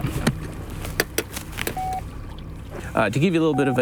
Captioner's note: mechanism clicks